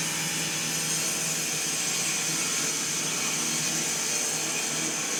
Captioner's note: mill whirring